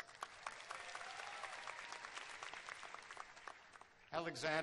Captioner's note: cheers and applause